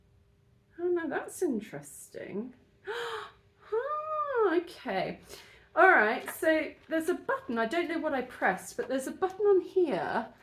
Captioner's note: gasp